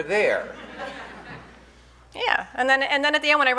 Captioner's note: audience laughing